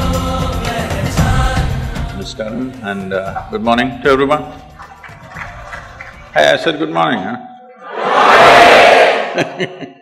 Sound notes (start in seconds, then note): 4.9 applause; 9.3 Sadhguru Laughs